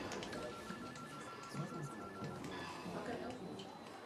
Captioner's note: phones ringing